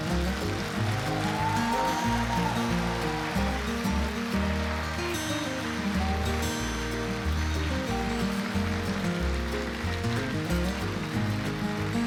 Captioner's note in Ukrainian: оплески